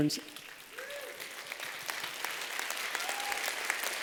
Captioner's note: applause